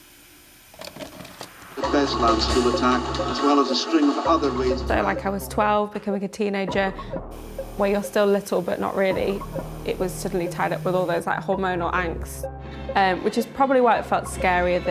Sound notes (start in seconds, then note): 0.8 VHS player clicks